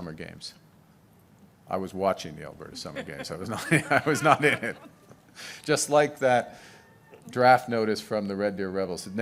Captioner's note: laughter